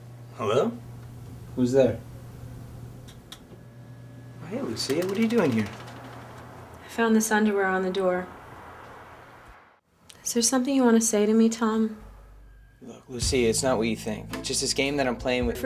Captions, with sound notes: - Hello? Who's there? (switch clicks) - Hey, Lucia, what are you doing here? - I found this underwear on the door. Is there something you want to say to me, Tom? - Lucia, it's not what you think. It's just this game that I'm playing with-